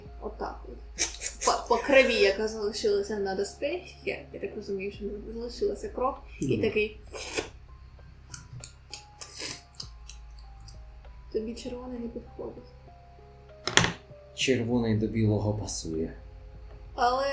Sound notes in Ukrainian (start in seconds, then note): 8.3 плямкає